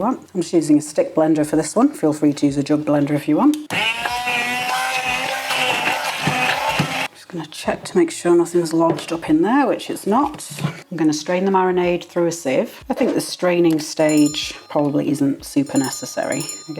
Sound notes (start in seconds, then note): 7.1 blender whirring